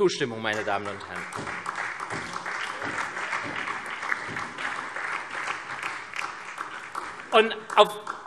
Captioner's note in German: Beifall SPD und Freie Demokraten